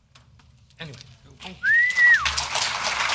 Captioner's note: audience applause